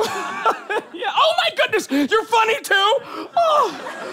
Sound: laughs

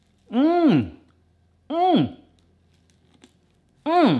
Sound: groans

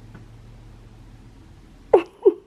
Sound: giggles

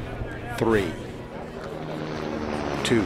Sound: helicopter flying

